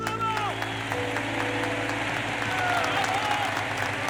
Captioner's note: audience cheers and applauds; tense music